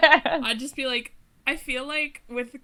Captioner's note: hosts laugh